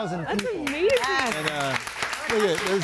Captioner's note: audience applauds